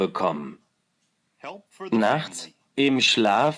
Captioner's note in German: Englische Stimme im Hintergrund